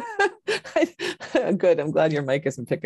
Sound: laughs

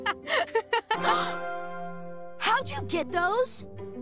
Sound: laughs; continues laughing; Eda gasps

